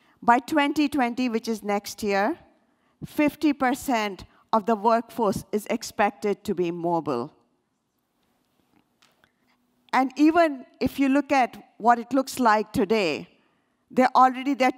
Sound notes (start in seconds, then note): none